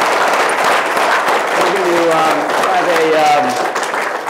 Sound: uh -- applause

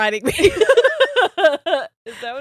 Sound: both laughing

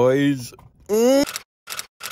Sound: moans

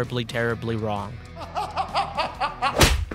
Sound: Arthur laughs

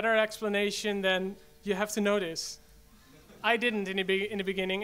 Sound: audience laughs

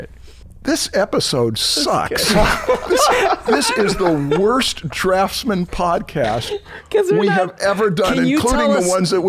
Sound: laughter

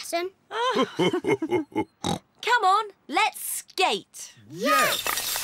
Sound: both laugh

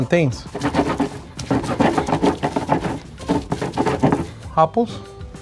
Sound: stone scraping

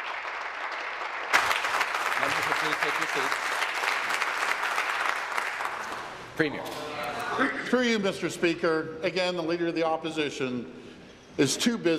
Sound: applause

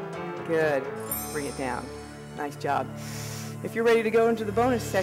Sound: breathing

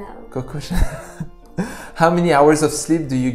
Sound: laughs

